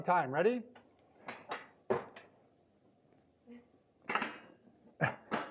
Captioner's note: metal clicking